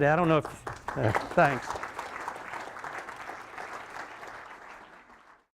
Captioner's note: applause